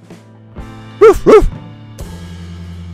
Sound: Blake barks

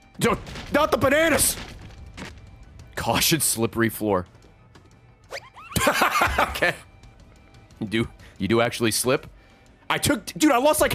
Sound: laughs

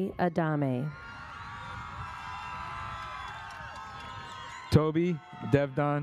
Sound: audience cheers

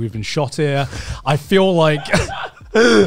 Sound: laughs

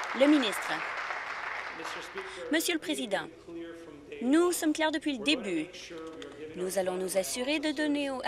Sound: applause

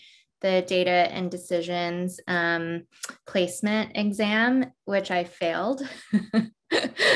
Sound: laugh

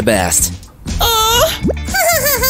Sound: giggles

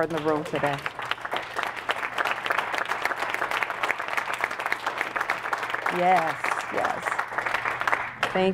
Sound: applause

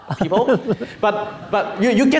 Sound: laughing

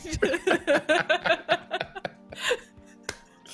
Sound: laughing

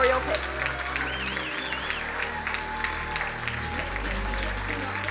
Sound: crowd cheering and applauding; upbeat music drowns out singer

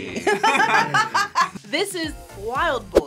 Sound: group laughs

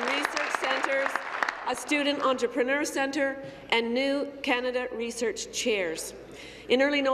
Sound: applause

